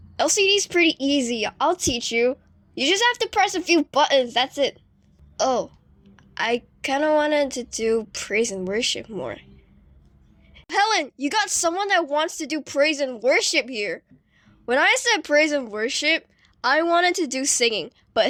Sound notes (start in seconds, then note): 10.0 awkward silence